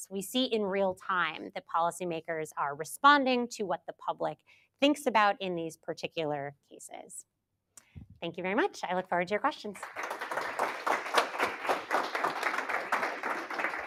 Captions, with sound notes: We see in real time that policymakers are responding to what the public thinks about in these particular cases. Thank you very much. I look forward to your questions. [APPLAUSE]